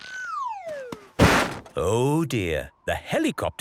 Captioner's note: bangs